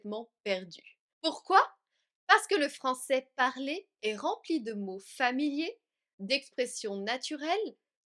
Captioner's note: spoken French